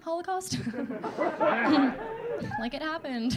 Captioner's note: audience laughing